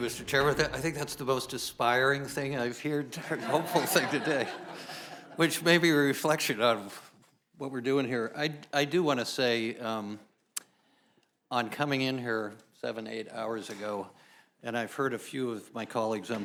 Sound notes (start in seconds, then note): 6.0 laughs